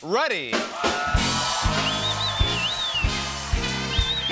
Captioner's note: cheers and applause